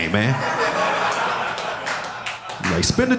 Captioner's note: audience laughing